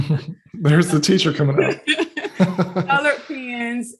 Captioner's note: laughing